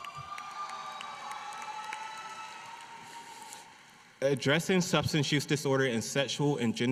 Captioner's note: applause